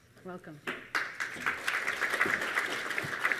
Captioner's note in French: Applaudissements